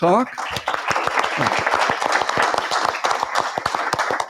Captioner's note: applause